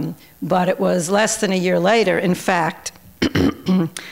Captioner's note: clears throat